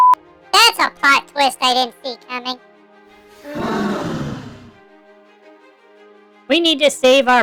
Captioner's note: sarcastically